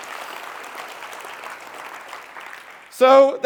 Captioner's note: applause